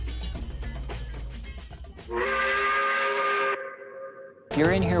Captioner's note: upbeat music; steam locomotive whistle